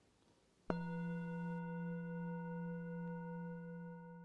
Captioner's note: bell chimes